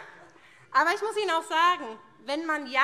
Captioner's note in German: Heiterkeit